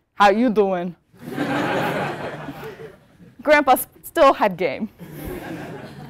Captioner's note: laugh